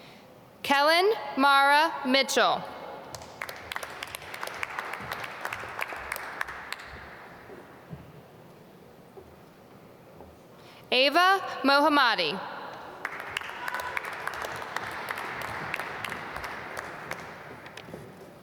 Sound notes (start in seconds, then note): 3.1 applause; 13.0 applause